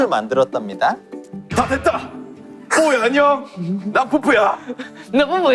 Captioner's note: manly voice